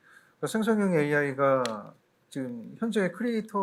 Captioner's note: speaking korean